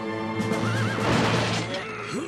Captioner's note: horses neighing; both grunting